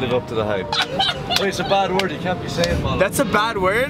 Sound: laughs

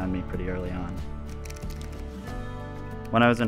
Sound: lens cranking

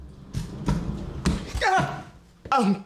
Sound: yells

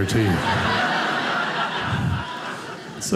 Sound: audience laughing

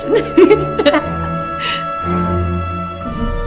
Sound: Janet laughs

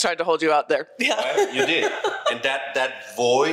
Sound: laughs

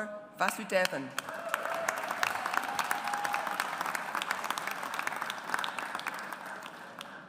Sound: audience applauds

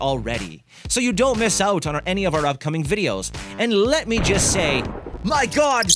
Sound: explosion; rats squeaking

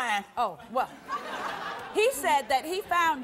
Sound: audience laughs

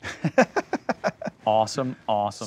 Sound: laughing

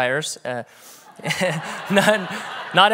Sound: everyone laughs

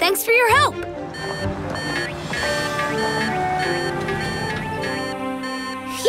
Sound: beeping

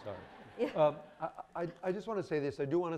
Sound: audience laughing

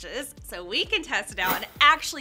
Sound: air whooshing

